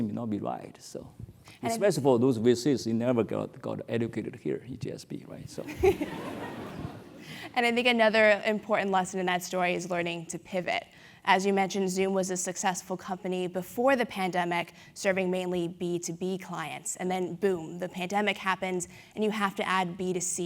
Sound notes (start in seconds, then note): 6.2 laugh